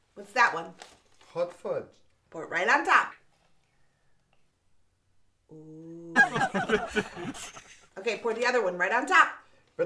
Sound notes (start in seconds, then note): 6.2 audience laughter